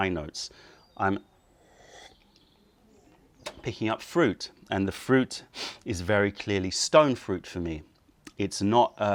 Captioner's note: sips tea